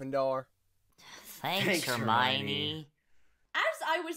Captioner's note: sarcastically